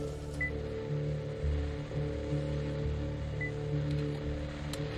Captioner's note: equipment beeping